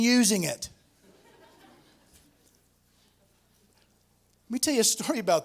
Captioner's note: laughter